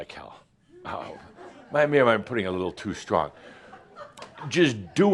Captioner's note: a few chuckles